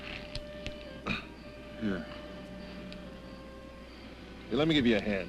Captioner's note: coughs